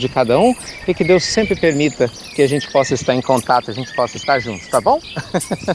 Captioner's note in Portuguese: Risos